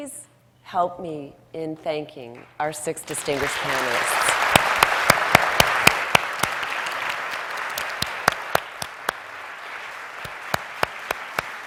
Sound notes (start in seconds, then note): 5.5 audience applauds